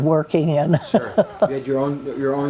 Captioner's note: laughs